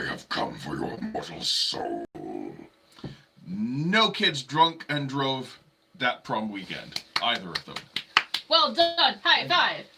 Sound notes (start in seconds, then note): 6.9 clapping